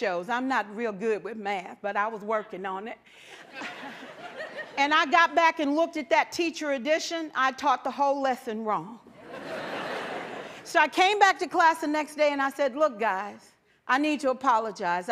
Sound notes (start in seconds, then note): 3.4 laughter; 9.1 laughter